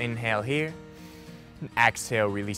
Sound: inhaling

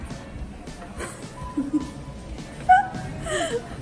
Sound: laughing

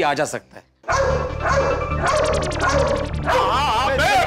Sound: dog barks

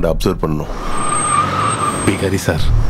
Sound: brakes squeak

